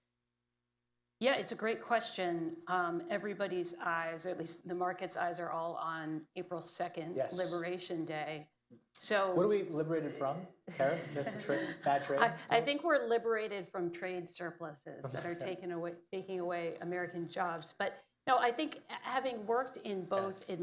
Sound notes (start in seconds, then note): 10.7 laughter